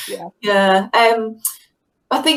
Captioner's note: laughing